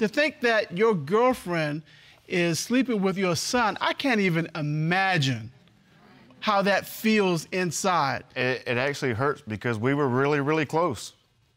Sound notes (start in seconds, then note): none